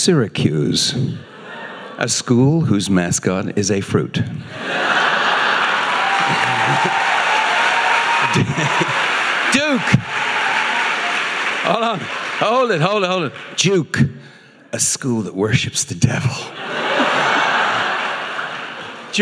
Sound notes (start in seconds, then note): 4.7 audience applauding